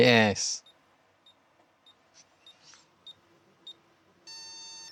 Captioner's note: beeping